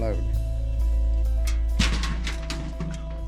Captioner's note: metal clanging